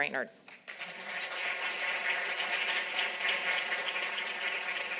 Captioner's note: audience applauding